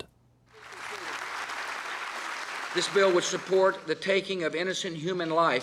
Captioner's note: applause